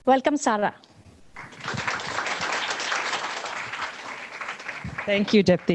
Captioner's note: audience applauding